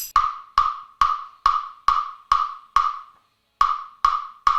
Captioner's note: rhythmic tapping